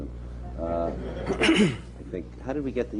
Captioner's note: laughter